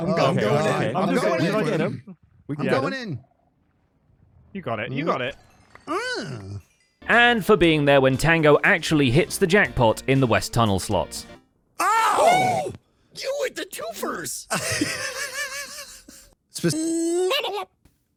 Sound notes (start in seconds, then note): 14.4 laughs; 17.2 Donald Duck noises